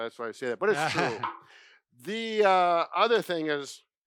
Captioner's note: laughs